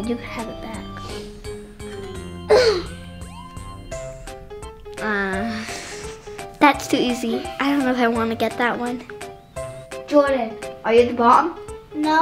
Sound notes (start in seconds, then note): 2.1 coughs